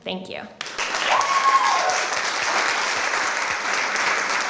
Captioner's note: applause